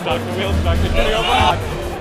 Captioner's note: crowd